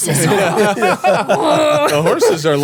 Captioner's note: laughing